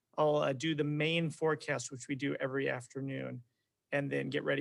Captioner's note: none